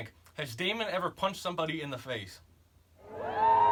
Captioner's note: audience cheers